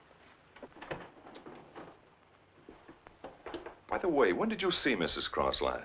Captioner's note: footsteps thumping